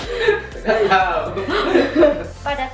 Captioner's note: laugh